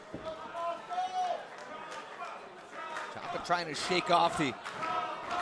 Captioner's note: crowd chatter